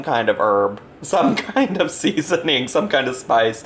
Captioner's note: laughs